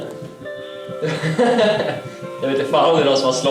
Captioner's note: laughter